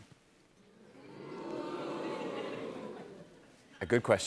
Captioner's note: audience oohs